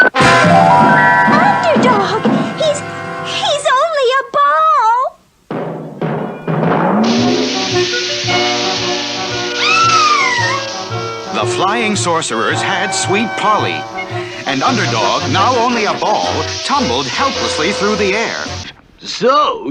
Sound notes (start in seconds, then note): 5.1 bouncing; 9.5 Sweet Polly Screams